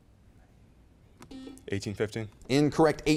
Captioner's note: beep